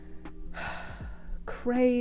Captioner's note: pained sigh